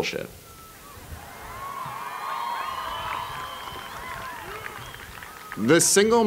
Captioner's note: cheering